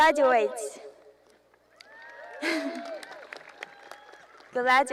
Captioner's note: cheering